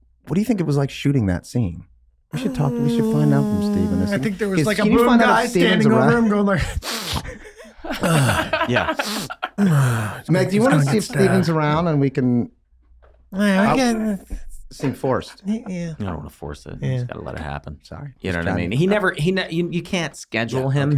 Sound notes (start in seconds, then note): 8.2 laughing; 8.9 Charlie snorting